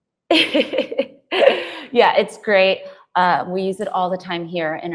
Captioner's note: laughs